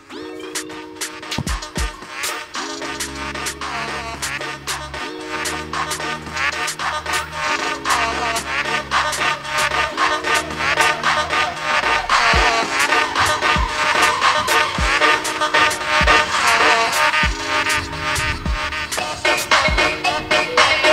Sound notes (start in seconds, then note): 0.5 laughs; 16.1 laughs